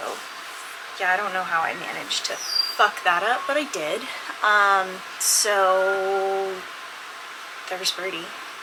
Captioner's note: bird whistles in background